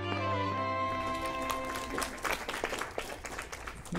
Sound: applause

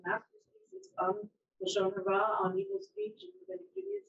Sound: speaking in foreign language

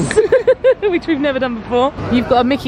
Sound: laughing

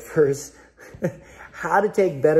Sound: laughs

